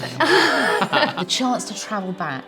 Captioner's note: laughing